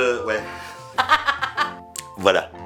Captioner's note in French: rires